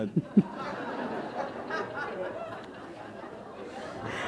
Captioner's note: laughter